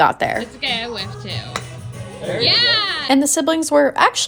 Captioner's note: siblings cheer